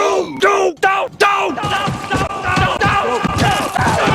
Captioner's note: crashing